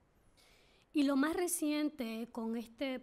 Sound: speaking spanish

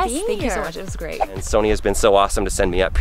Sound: air whooshing

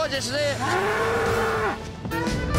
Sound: bull mooing

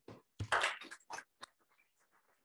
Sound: applause

